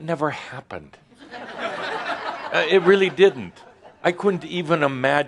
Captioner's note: laughter